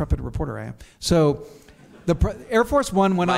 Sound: audience chuckles

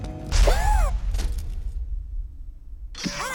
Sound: Robo screams

